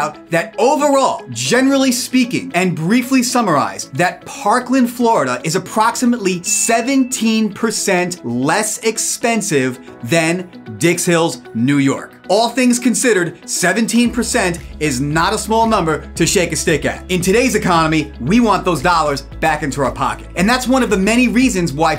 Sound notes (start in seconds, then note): 6.4 graphics ding